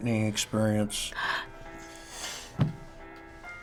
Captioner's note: gasps, chokes up